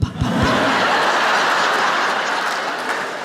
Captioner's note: laughter